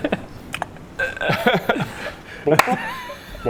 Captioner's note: unconcerned laughter